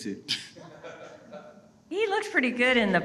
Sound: audience laughing

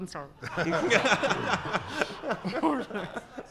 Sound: laughing

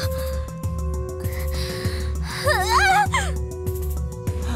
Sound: pained cry

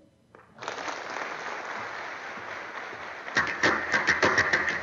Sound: applause

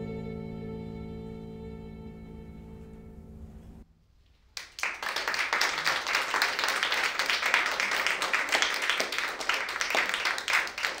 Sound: applause

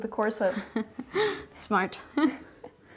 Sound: laughing

